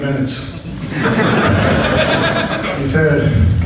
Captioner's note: audience laughs